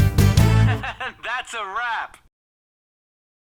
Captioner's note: laughing guy